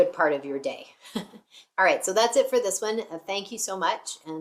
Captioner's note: chuckles